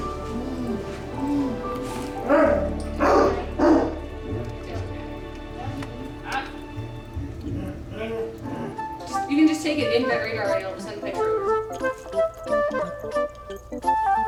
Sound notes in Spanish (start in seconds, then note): 2.9 Ladrido de perro; 9.1 Charla del personal del hospital